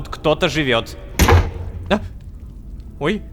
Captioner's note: door slam